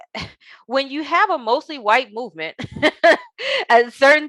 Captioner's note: chuckles